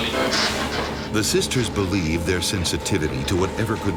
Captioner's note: voiceover